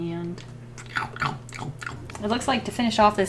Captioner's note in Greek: Ήχοι μασουλήματος